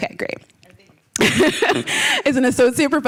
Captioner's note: laughter